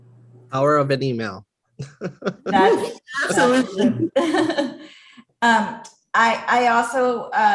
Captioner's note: laugh